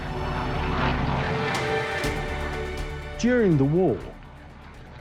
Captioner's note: planes roaring; dramatic music